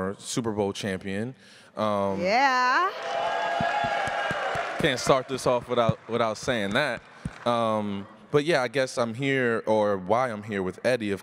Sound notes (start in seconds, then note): 2.9 audience cheers